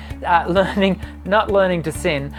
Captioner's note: laughs